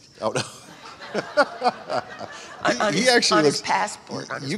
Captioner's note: audience laughter